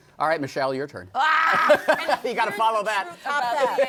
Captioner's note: laughter